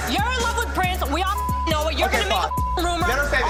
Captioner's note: beep